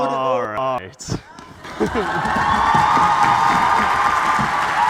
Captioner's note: applause